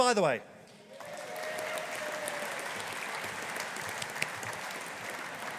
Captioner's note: audience applauding